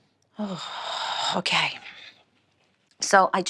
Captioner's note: sighs